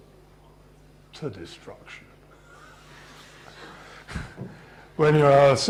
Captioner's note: laughter